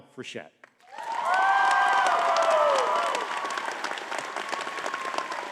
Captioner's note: audience cheering and clapping